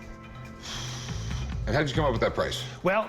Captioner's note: exhales